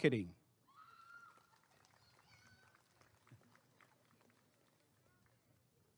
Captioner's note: applause and cheering